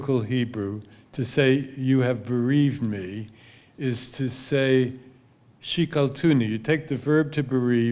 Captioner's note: hebrew